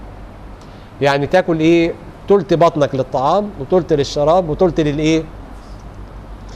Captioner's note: breath